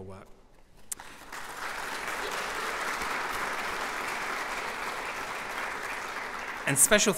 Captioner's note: applause